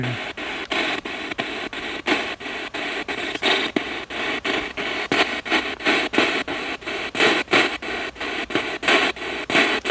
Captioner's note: radio noise from the spirit box